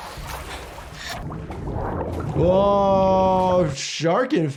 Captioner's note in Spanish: el agua chapotea